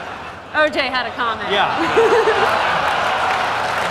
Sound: laughter; applause

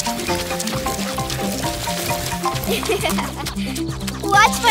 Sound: chuckling

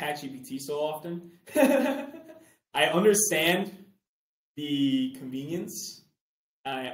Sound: chuckles

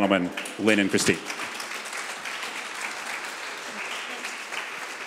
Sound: audience applause

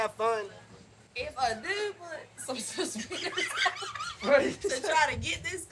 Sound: laughs

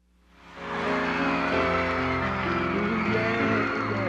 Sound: audience cheering

